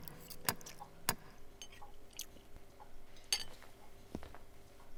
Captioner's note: knocker clicking